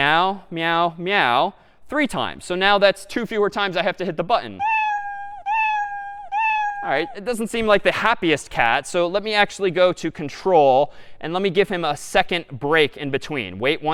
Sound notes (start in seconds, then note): 4.6 meowing three times rapidly